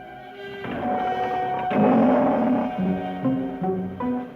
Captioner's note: cat growls